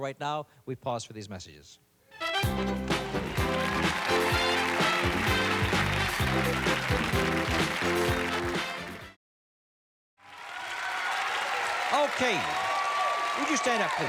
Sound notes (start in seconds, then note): 2.2 theme music playing; 4.3 cheers and applause